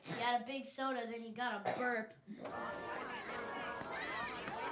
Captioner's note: people chattering